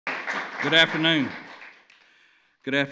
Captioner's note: applause